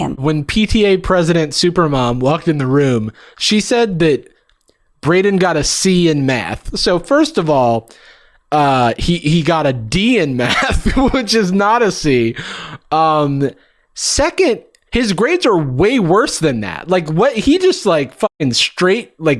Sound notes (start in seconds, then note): 10.5 laughs